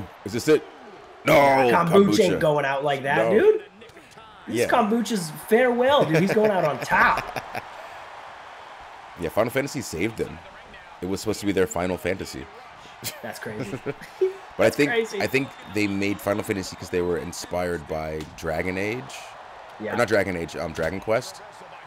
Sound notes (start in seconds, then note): 9.4 laugh